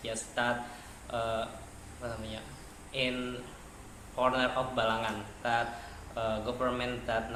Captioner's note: non-english speech